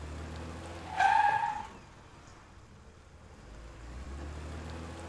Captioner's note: car screeches